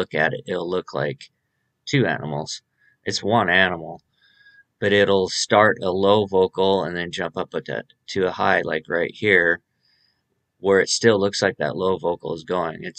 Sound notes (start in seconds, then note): none